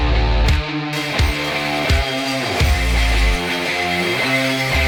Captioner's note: drilling